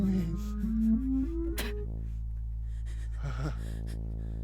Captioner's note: Gabby spitting